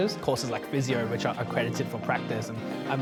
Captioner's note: none